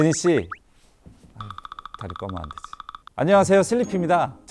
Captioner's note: nervous